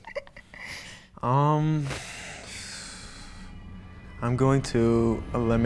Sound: laugh; sighs

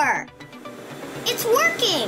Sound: vacuum whooshes

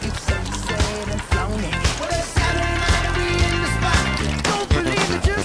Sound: oil starts to boil slowly

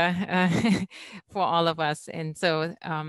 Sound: laughs

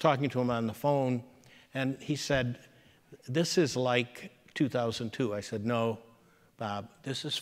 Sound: none

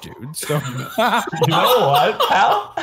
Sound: laughs

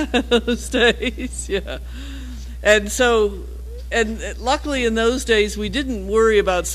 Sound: laugh

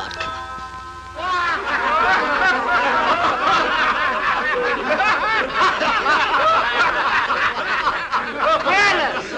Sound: loud, boisterous, sycophantic laughter

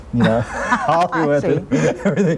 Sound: laughing

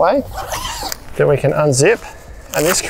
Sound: zipper screeching

